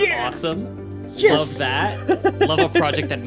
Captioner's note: laughs